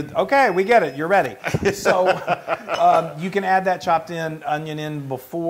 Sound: laugh

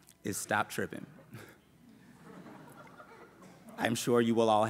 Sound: laughter

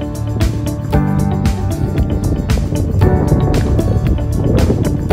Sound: sound of the wind for which Lanzarote is famous

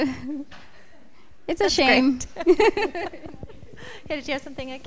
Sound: chuckles

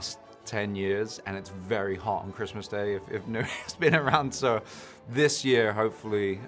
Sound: chuckles

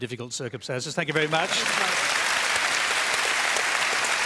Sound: applause

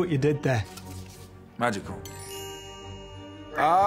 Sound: magical chime

